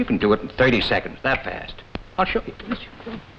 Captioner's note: fingers snap